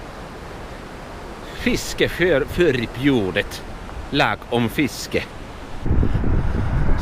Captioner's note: in Swedish